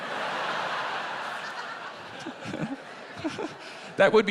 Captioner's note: laughter